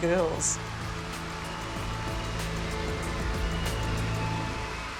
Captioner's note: crowd cheering